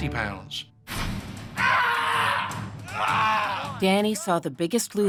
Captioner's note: screams